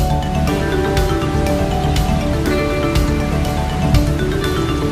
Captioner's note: wind rustling